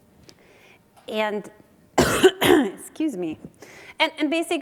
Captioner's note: coughs